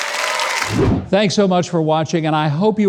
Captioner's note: audience cheering; air swooshing